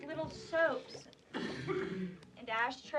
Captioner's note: chris coughing